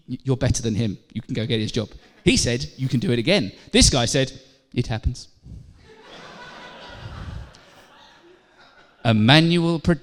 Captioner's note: laughter